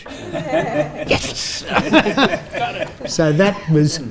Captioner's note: all laugh